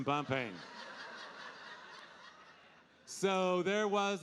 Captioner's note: audience laughing